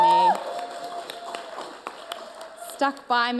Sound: audience cheers

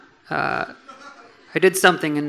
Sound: audience laughing

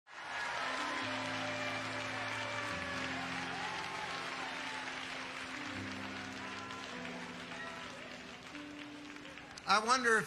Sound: audience applauding

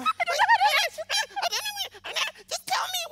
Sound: Connie and Tristan laugh

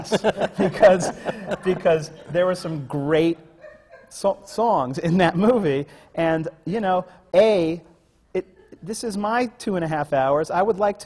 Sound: laughter

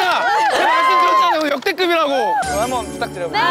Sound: staffs are cheering enthusiastically together

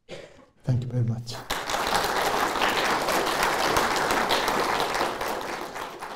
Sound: applause

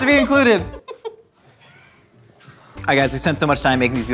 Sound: laughing

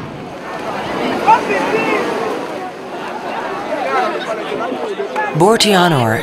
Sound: chatter

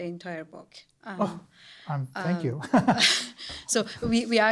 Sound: laughs

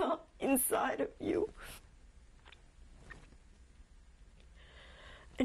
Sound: pauses for 3 seconds

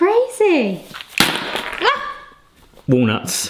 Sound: bag slams

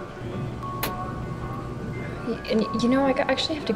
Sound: dryer clicks, then a short tune plays

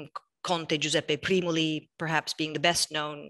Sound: speaking in foreign language

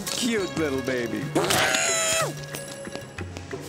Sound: squeals

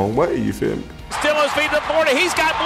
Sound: voiceover

